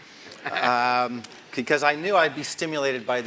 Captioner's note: laugh